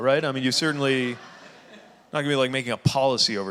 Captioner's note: audience laughing